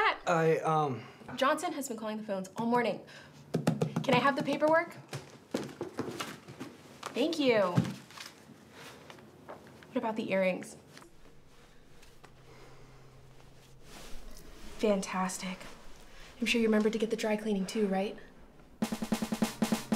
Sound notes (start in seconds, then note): 3.4 taps desk; 5.3 rustling